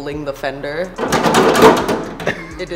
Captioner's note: fender crashing